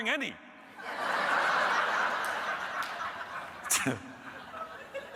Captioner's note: audience laughing